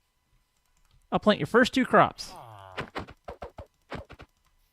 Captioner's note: villager chatters; villager chatters